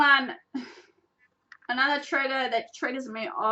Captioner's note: little sigh